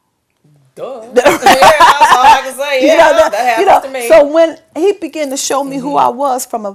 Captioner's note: laughter